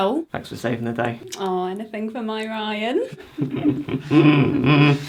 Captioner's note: Ryan laughs throatily